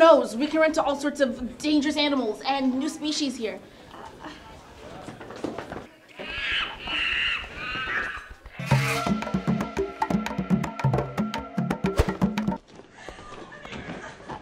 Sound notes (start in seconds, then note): 6.1 monkey Noises